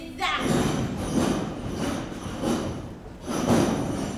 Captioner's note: objects clatter